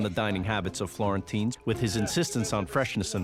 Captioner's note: exclaiming in Italian